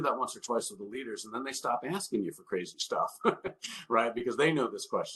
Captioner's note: chuckles